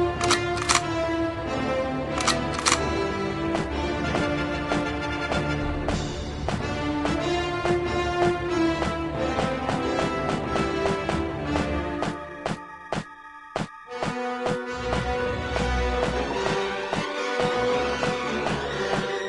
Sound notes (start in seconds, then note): 0.1 guns cocking; 2.1 guns cocking